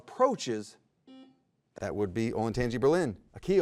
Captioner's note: buzzer buzzes